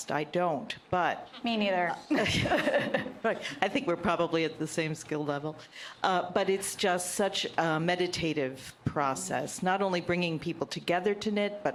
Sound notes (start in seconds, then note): 2.1 laughter